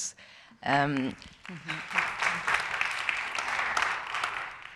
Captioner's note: audience applauding